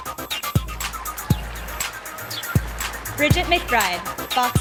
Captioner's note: sound of applause and cheering from the audience